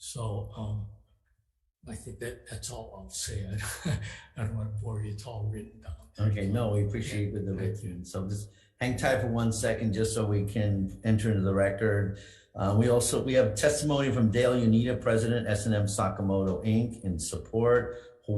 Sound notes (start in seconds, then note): 3.2 laughs